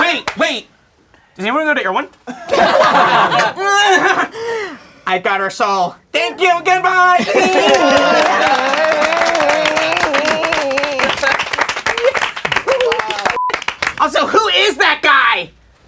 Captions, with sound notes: Wait, wait, does anyone go to Erewhon? (crowd laughing) I got her soul. Thank you. Goodbye. (crowd applauding) Also, who is that guy?